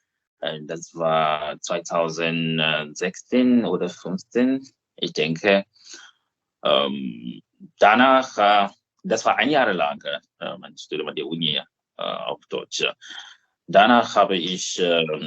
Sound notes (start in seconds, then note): 11.8 in German